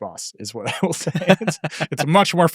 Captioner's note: laughing